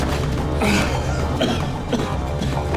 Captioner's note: groaning and coughing